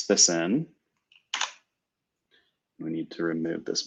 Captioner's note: typing